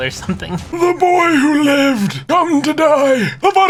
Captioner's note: terrifying Voldemort impression